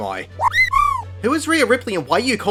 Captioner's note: kweh?